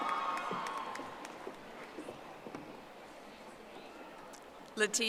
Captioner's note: audience applauding